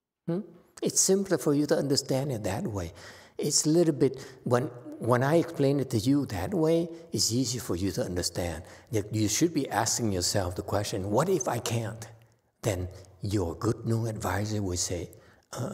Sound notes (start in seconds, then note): none